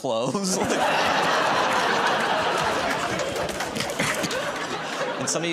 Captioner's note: laughter